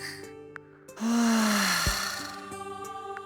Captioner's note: relieved sigh